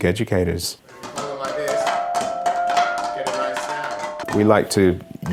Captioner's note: tapping on plastic bottles